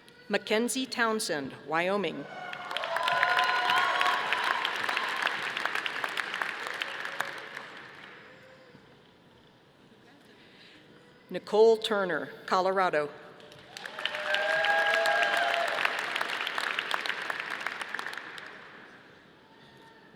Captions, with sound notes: MaKenzie Townsend, Wyoming. (audience applauding) Nicole Turner, Colorado. (audience applauding)